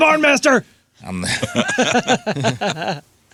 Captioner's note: laughing